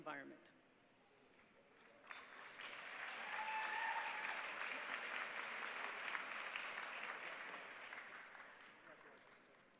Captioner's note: applause